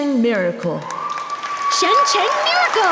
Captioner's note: audience applause